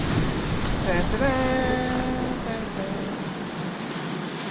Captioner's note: vocalizing